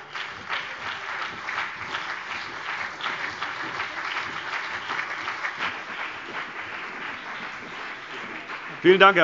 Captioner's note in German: Beifall BÜNDNIS 90/DIE GRÜNEN und CDU